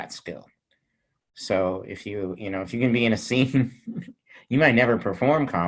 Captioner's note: chuckling